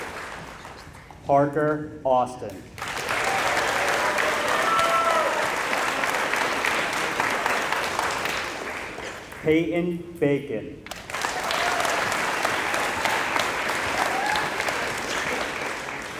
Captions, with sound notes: Parker Austin [applause] Peyton Bacon [applause]